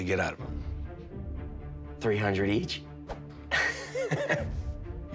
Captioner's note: laughs